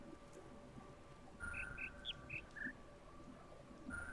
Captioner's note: bird chirps ˧ ˧ ˥ ˧ ˩